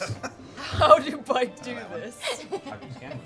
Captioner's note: laughs